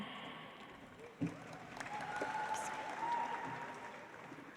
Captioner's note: audience applauds